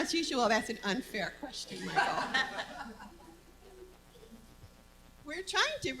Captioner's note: laughter